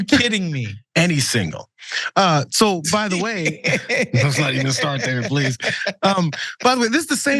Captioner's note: laugh